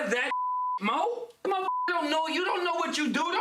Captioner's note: beep